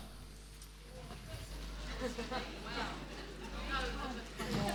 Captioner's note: chatter